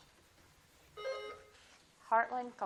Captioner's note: buzzer blips